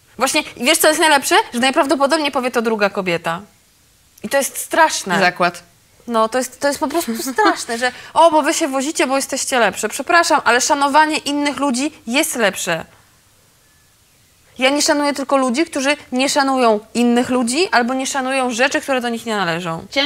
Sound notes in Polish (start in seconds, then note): 7.0 śmiech zażenowany